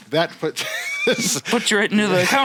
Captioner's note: laughs